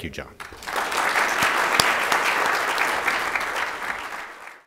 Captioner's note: applause